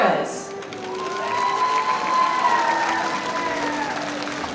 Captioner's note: audience applauding